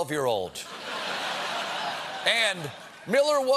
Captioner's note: laughter